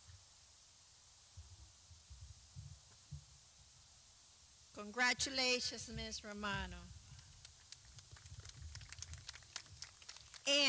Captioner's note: clapping